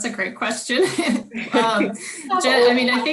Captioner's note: all laugh